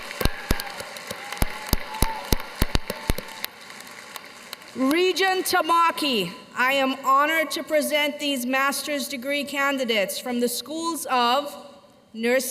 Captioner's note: cheers and applause